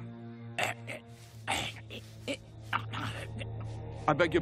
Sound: coughing and gagging

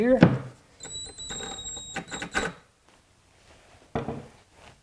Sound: drill whirring; wood clanking

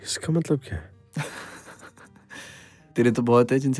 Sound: laughing

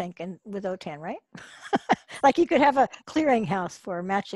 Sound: laughs

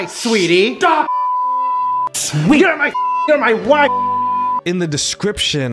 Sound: beep

